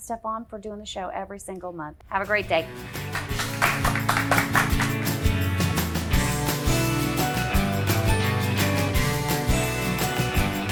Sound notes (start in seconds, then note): 4.8 audience clapping; 6.7 upbeat music